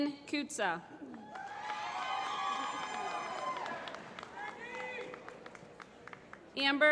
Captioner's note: applause